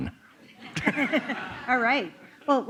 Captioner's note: laughter